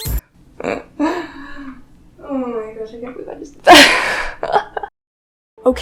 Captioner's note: laughs; loud ahh laugh